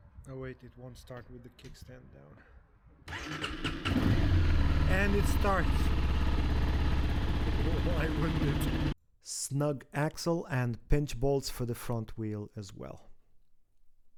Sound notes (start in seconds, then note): 3.0 engine starts